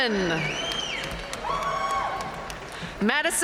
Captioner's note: audience cheering and applauding